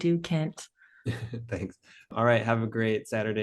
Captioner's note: chuckles